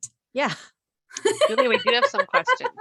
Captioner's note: laughter